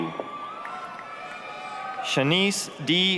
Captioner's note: applause, cheering